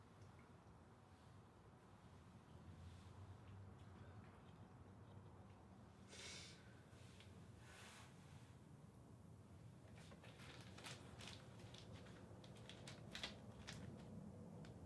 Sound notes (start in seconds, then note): 10.0 bag crinkling